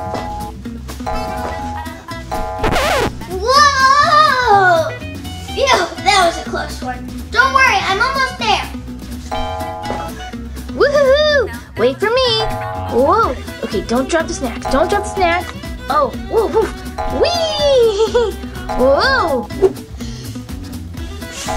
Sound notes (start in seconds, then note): 0.2 bouncy sounds; 9.4 bouncing sound effects; 17.8 giggles